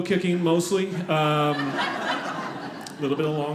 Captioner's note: audience laughing